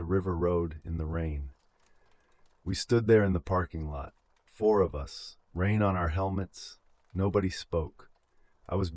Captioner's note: exhale